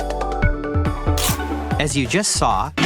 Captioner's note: crunch sound